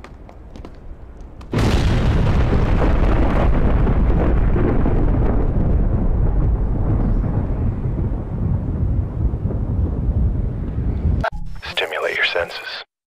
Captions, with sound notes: *BOOOOOOOOOOOOOOOOOOOOMMMMMMMMMM* hmmmmmmmmmmmmmmmmmmmmmmmmmmmmm Stimulate your senses.